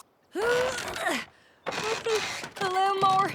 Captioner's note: grunting